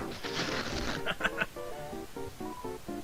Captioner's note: laughing